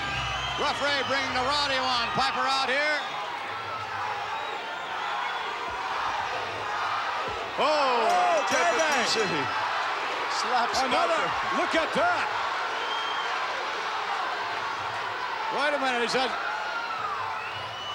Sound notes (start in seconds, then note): 7.6 commentators chattering; 7.9 bell ringing